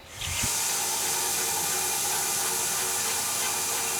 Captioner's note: saw buzzes